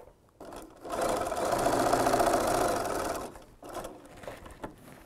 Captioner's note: sound of a sewing machine